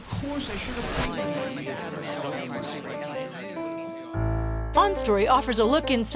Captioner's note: multiple voices chattering